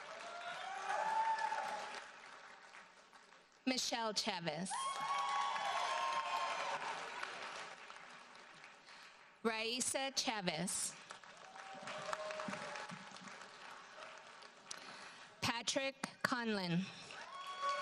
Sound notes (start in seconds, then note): 0.0 audience cheers and applauds; 4.7 audience cheers and applauds; 12.7 audience applauds; 17.1 audience cheers and applauds